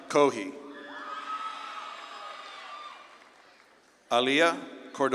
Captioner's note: audience claps and cheers